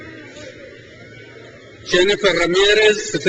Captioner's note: crowd cheers